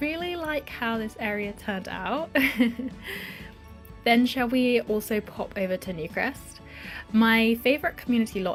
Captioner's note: laughs